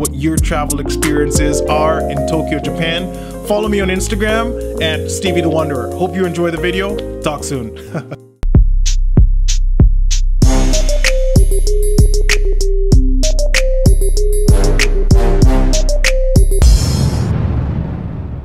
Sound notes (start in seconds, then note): 7.8 laughing; 8.4 percussive music